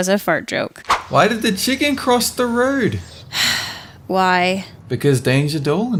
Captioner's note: sigh